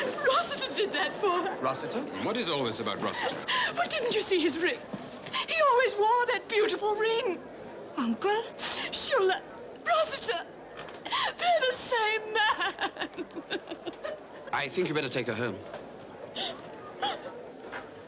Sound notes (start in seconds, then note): 11.0 sobbing; 11.1 sniffles